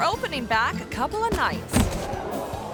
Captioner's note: thuds; crowd